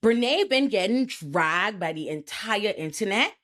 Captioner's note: none